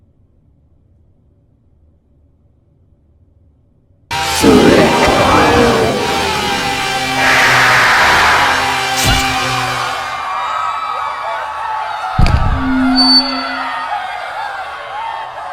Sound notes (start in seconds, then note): 9.0 slash; 10.1 crowd yelling in fear